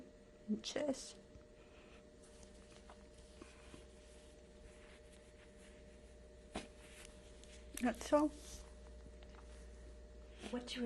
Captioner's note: pauses for 7 seconds